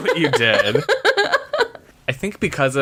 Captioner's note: laughs